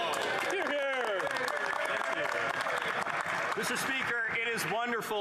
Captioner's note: some Applause